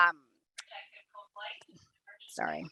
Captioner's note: woman speaking on intercom